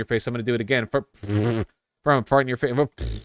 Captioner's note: imitates farting